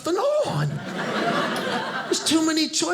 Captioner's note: audience laughing